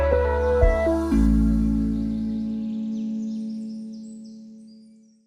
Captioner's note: birds chirping